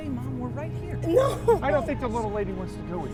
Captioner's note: crying